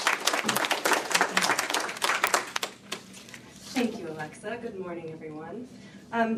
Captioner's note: applause